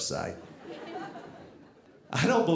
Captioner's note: audience laughing